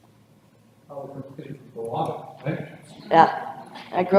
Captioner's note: audience member speaks off-microphone